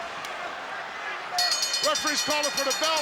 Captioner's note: bell rings